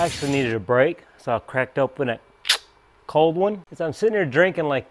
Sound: mimics can opening

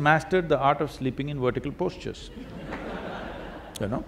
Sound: laughter

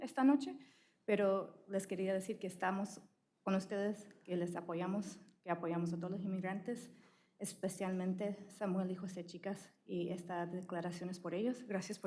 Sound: speaking spanish

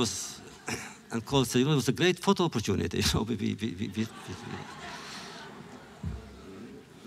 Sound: laughter

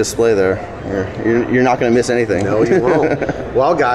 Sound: laughs

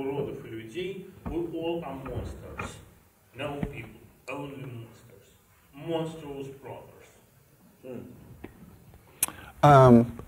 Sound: speaks Russian

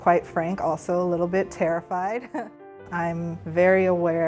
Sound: chuckling

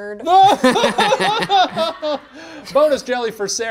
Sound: laughs

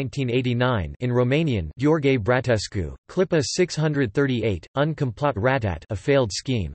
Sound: in Romanian

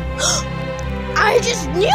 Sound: gasp

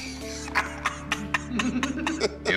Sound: laughter

